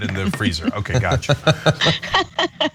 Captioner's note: laugh